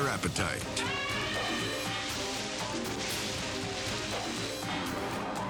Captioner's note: elephant trumpeting